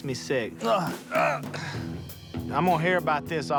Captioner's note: straining